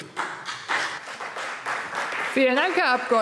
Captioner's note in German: Beifall CDU und BÜNDNIS 90/DIE GRÜNEN